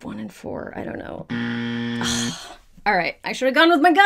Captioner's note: buzzer sounds